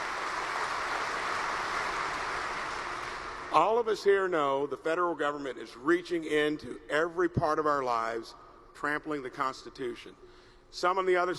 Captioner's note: applause